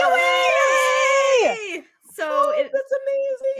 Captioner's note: everyone cheers